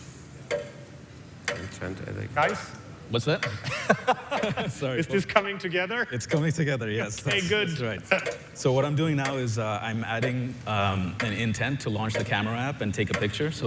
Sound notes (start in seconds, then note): 3.6 laughter